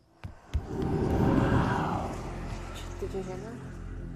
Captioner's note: dramatic ghostly gasp